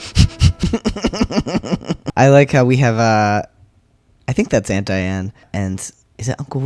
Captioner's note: laughter